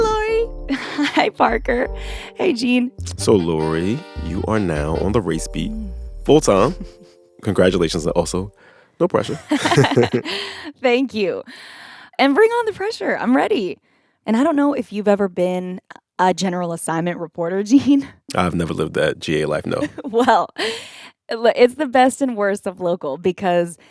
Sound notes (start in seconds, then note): 9.2 laughter; 19.6 laughter